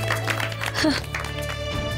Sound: applause

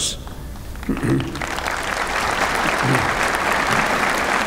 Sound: applause

